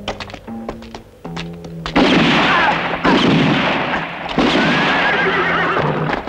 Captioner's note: crying out; guns firing